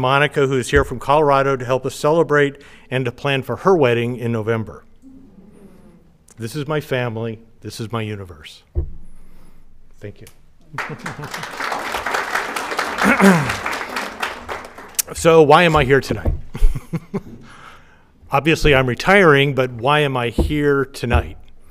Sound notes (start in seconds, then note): 10.7 audience applauding; 16.5 chuckles